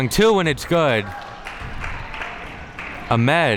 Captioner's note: spectators applauding